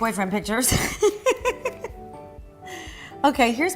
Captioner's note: laughter